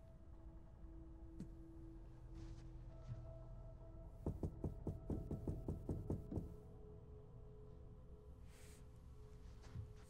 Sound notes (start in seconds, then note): 3.7 knocking